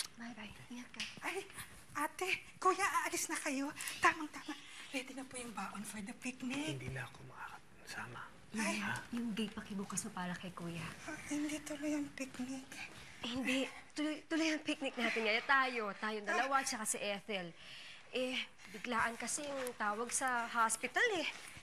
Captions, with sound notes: Bye-bye. Take care. Oh, sir, ma'am, are you leaving already? -This is just in time. -Shh, shh. Here's the food for the picnic. [whispers] I won't be able to come along. -Oh. -Please open the gate for sir. Oh, so the picnic won't push through. No, we're going on a picnic today. But it's just us. The two of us and Ethel. He got an emergency call from the hospital.